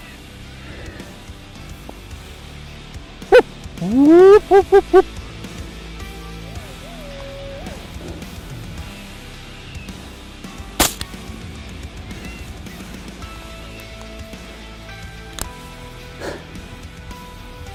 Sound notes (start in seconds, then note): 3.8 coyote calling; 10.8 gun bangs